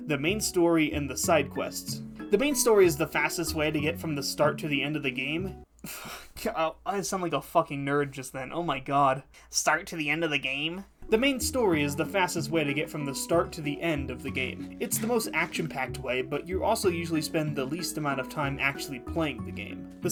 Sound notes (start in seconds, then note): 5.7 scoffing; 9.5 nerd voice